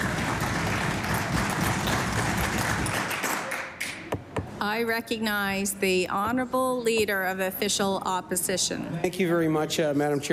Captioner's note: cheering/Applause